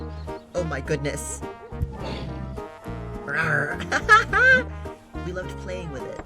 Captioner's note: laughs